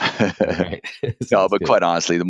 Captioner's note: laughs